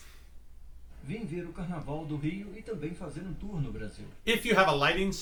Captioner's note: mans voice speaking portuguese